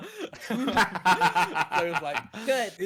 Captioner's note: all laughing